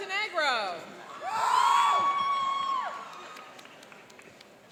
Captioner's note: cheering and applauding